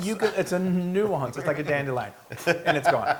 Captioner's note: laugh